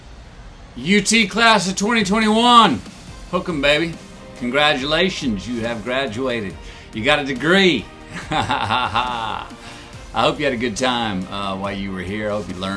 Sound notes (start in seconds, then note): 8.0 laughing